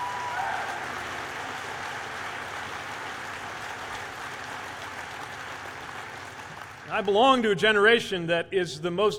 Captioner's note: applause